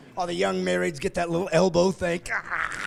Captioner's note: laughing